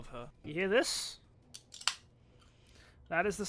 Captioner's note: sound of a can opening